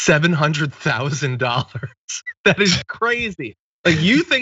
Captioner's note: laugh